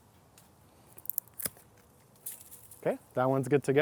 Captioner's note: trimmers snipping